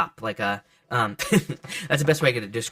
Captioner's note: laughs